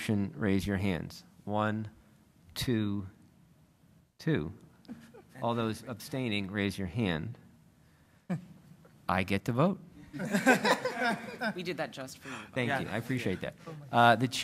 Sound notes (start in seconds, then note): 10.1 laughter